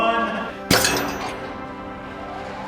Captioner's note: machine noise